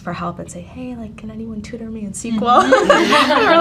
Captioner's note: laughs